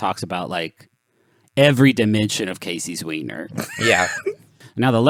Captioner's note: laughs